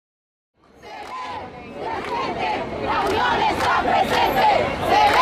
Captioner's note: crowd chanting